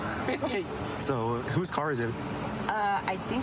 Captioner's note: none